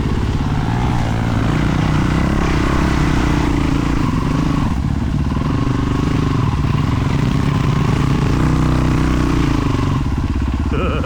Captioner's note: laughing